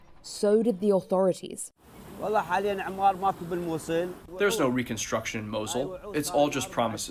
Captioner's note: through translator